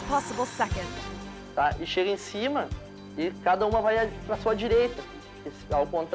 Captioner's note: biker speaking foreign language